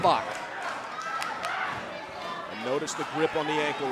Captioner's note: crowd chattering